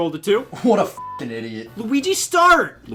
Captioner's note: beeps